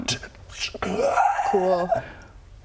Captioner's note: hrrghgahh